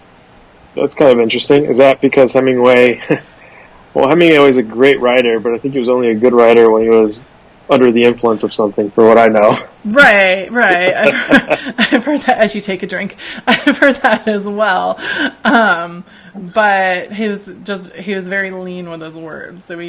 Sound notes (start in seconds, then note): 2.6 chuckles; 10.1 laughs